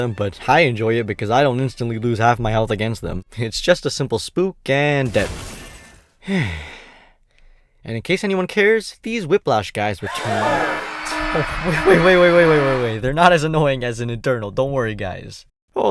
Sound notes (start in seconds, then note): 6.4 exhales; 10.0 crowd starts panicking